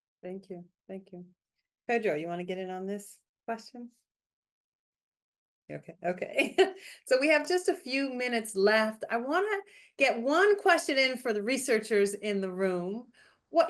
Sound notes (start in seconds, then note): 6.3 chuckles